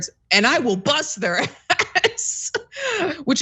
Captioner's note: laugh